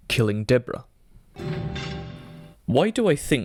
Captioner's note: guillotine